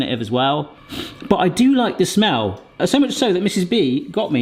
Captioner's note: sniffs